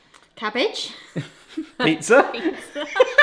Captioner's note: laugh; laughs